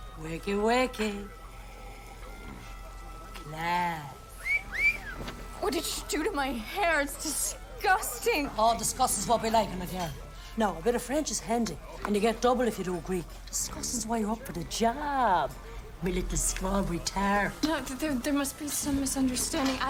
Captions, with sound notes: WAKEY-WAKEY. - CLASS. - ( wolf whistle ) WHAT DID YOU DO TO MY HAIR? IT'S DISGUSTING. AH, DISGUST IS WHAT WE LIKE IN A GIRL. NOW A BIT OF FRENCH IS HANDY, AND YOU GET DOUBLE IF YOU DO GREEK. DISGUSTING IS WHY YOU'RE UP FOR THE JOB, MY LITTLE STRAWBERRY TART. NO, THERE-- THERE MUST BE SOME MISUNDERSTANDING.